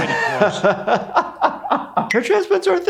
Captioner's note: laughing